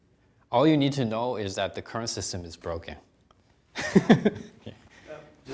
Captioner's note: chuckling